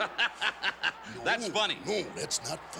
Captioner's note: laugh